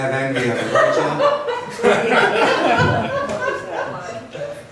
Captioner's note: laughs